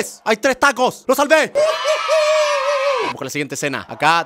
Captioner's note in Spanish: Gritos de niños